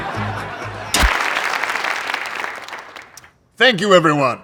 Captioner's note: audience laughing; audience applauding